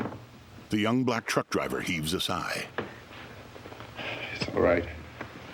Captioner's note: sighs